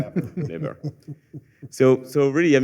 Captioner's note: laughter